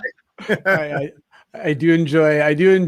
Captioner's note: all laughing